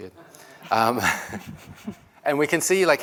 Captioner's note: laughter